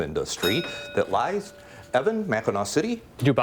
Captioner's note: bell rings